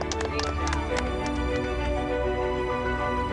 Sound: clapping

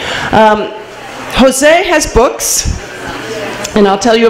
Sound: none

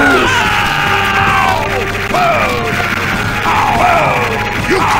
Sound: more Screams

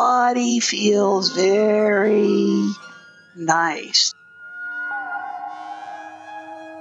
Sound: speaks slowly

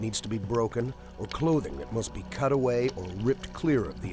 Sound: voiceover

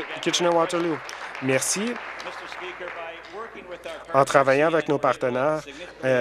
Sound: applause

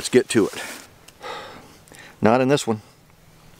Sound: sighs

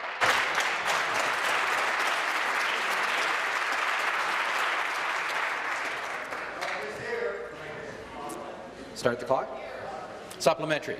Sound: applause

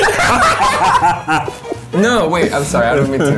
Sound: laughing

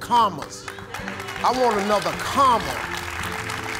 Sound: congregation applauds

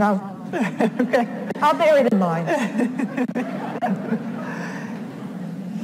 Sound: laughs

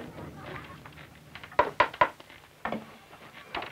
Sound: tapping; hammering

